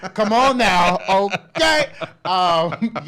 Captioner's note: laughs